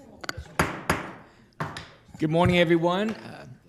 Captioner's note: gavel slams